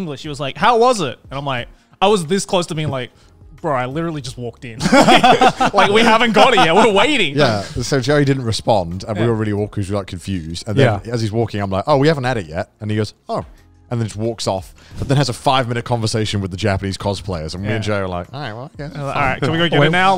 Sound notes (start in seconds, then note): 4.8 laughing